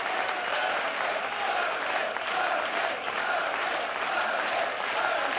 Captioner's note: audience chanting